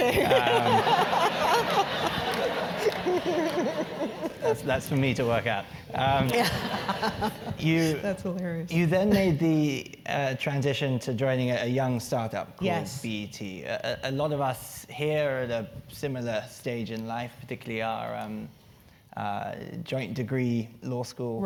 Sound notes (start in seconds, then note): 0.0 laugh